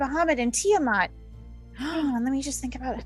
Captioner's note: gasp